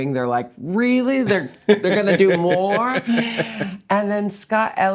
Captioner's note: laughing